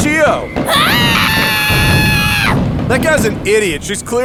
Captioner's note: Chiyo screaming